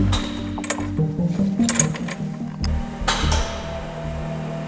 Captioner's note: metal clacks; machine whirs